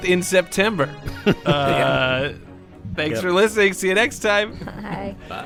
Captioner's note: laughter